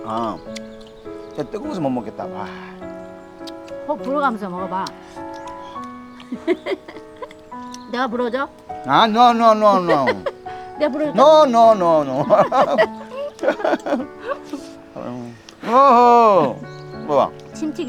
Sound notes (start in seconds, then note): 5.5 puffs; 11.1 both laughing; 15.4 puffs